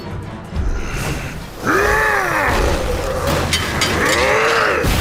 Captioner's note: roars